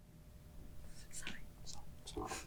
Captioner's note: none